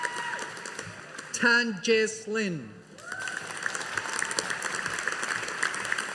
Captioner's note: audience applauding